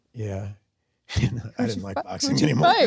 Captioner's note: laughs